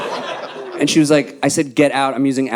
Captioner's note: audience laughing